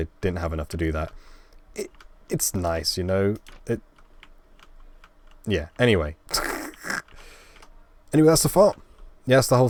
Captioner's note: laugh